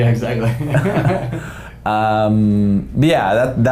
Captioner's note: laughing